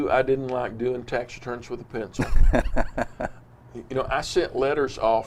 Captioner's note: laughs